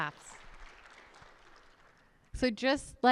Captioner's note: audience applauds